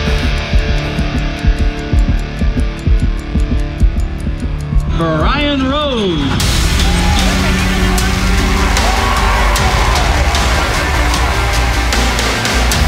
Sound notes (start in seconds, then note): 0.0 heart beating; 0.0 clock ticking; 7.6 crowd cheering; 7.6 triumphant music